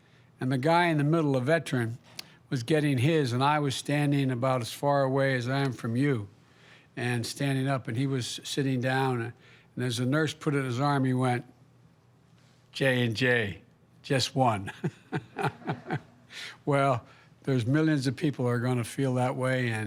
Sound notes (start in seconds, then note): 14.6 laughs